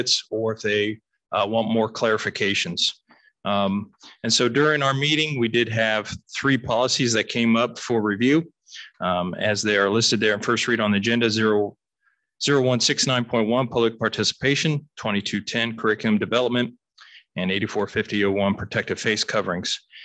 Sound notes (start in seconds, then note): none